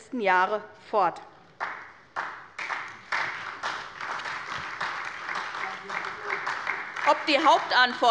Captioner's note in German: Beifall bei Abgeordneten der SPD